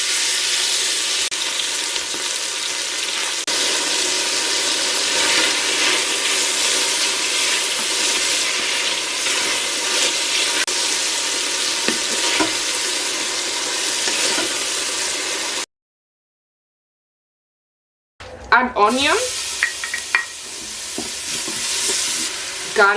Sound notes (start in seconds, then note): 11.1 sizzling sounds